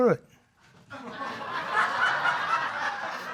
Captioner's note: audience laughing